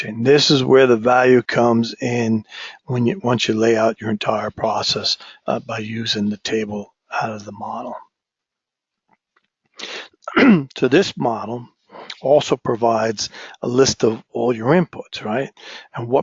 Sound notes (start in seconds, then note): 10.2 cough